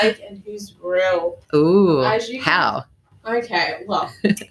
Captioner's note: laughs